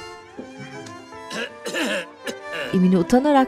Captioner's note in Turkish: Öksürme sesi